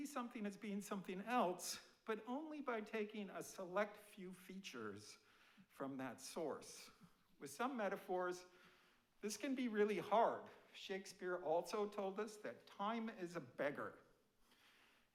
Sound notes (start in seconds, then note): none